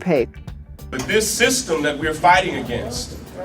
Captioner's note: crowd